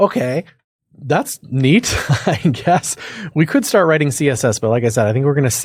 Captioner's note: laugh